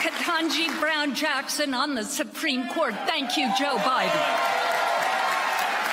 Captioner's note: applause